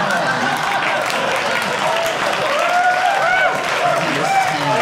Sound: audience cheering

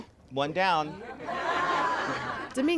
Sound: laughter

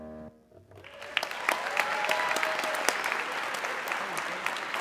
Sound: audience cheering

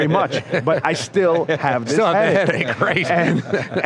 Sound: laughs

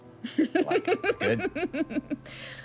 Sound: laughing

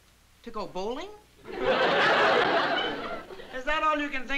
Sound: laughter

